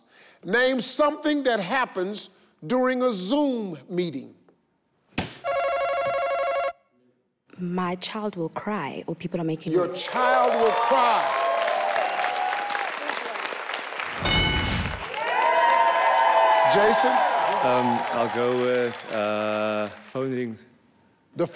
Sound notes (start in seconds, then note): 5.7 ringing sound; 11.6 audience applauding; 14.2 metallic chime; 14.9 audience cheering and applauding